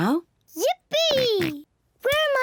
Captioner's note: oinks